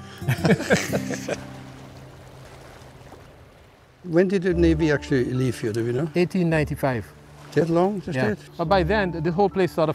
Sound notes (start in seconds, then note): 0.2 both laugh; 1.9 waves break softly